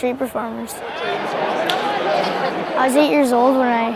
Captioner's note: crowd chattering